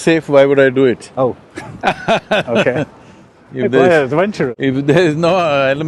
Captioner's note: Sadhguru laughs